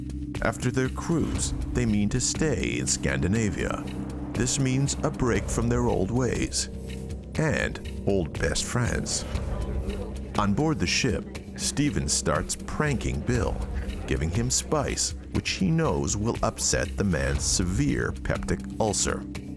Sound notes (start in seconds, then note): 9.9 crowd chattering